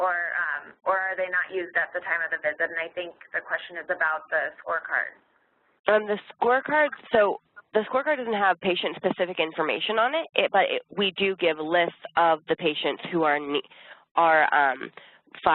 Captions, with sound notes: or are they not used at the time of the visit and I think the question is about the scorecards. - [Voiceover] On the scorecards? So the scorecards doesn't have patient specific information on it. We do give a list of the patients who are fives and diabetics